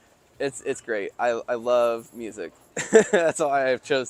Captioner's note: chuckles